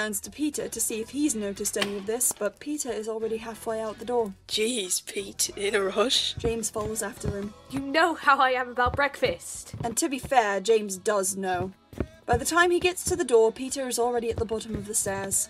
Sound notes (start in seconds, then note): 6.0 footsteps